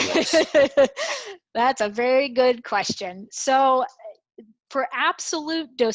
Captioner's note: laugh